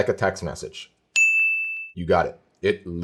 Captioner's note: dings